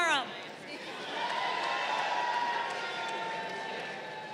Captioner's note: crowd cheering